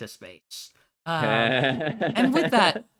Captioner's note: chuckles